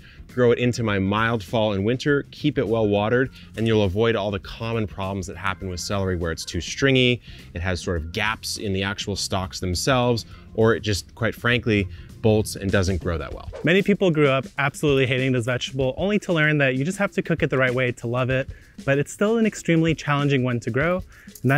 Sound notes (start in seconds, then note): 13.2 screen whooshes